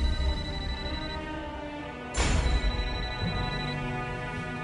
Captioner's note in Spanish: Suena un celular; Suena el celular